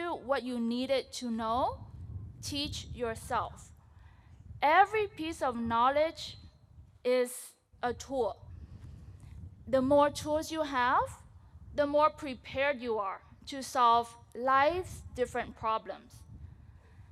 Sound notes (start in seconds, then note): none